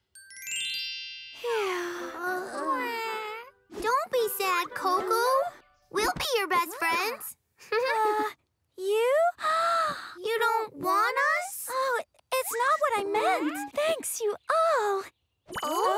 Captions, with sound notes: -[sighs] -Don't be sad, Coco. We'll be your best friends. -You? -You don't want us? It's not what I meant. Thanks, you all!